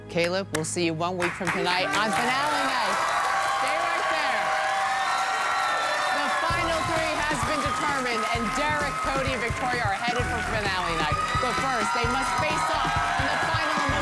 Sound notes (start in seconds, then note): 9.2 cheers and applause